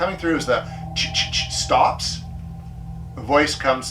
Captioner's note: imitates chittering